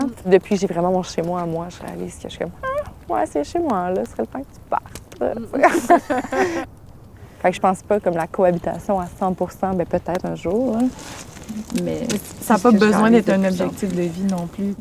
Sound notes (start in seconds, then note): 5.6 laughter